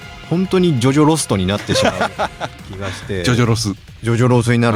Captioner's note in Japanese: 笑い